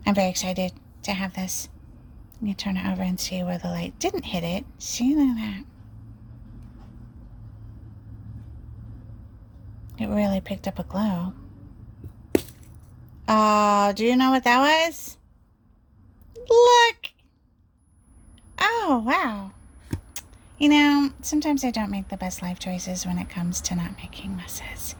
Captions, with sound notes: very excited to have this let me turn it over and see where the light didn't hit it see look at that it really picked up a glow (soft thump) oh do you know what that was look oh wow you know sometimes i don't make the best life choices when it comes to not making messes